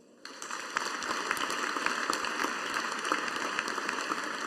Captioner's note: audience applauding